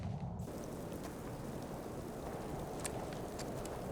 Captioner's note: wind howling